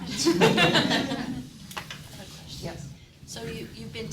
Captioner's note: audience laughing